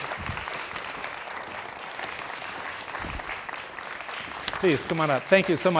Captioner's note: audience applauding